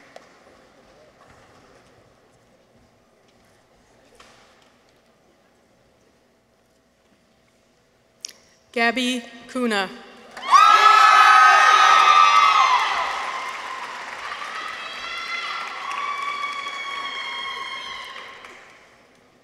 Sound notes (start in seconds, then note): 10.3 people cheer; 10.4 audience applauds